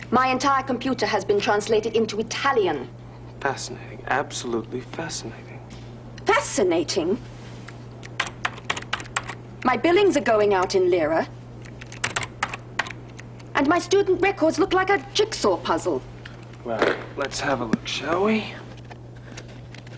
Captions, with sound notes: My entire computer has been translated into Italian. - Fascinating, absolutely fascinating. - Fascinating? (clicking of keyboard) My billings are going out in Lira. And my student records look like a jigsaw puzzle. - Well, let's have a look, shall we?